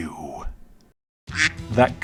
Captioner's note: quack